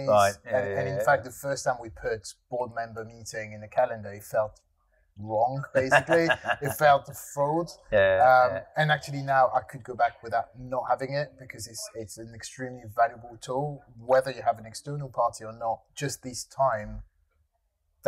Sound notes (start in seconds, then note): 5.7 laughing